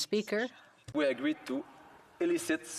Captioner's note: speaking French